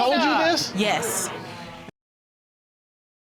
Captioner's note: audience groans